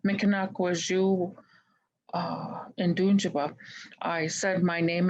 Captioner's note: speaking in Native Language